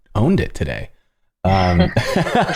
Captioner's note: laughter